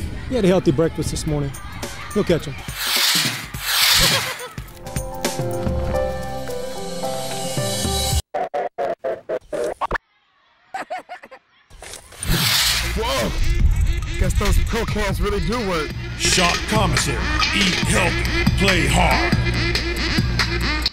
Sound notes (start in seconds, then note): 2.7 woosh; 4.7 piano music playing; 12.2 whoosh